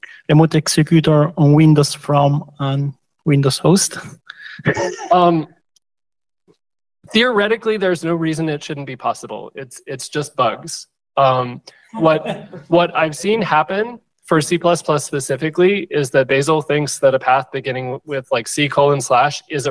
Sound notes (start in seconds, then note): 4.4 laughter; 12.0 laughter